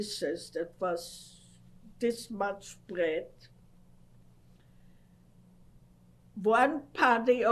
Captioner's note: pauses for 3 seconds